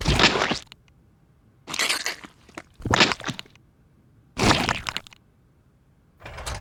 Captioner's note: plopping